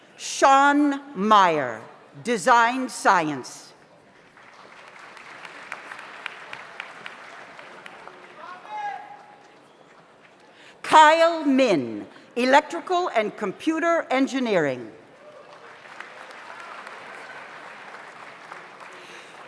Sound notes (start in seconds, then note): 4.2 audience applauds; 8.9 audience member shouts; 15.2 audience applauds